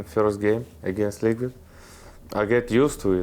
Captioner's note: none